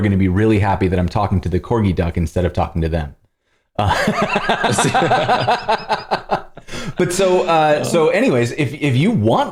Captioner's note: laughter